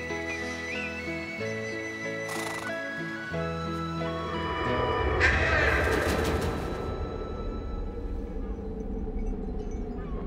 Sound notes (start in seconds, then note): 0.2 upbeat music; 5.0 bird screeching